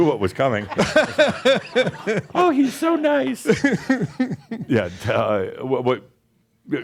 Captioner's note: in a high-pitched voice